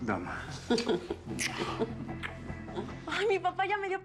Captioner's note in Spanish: risas